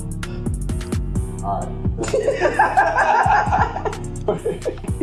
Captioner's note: laughing